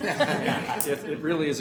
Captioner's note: laughing